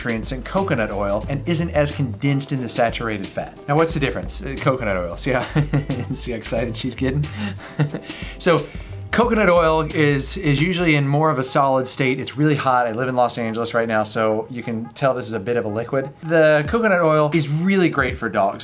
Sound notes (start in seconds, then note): 5.3 laughs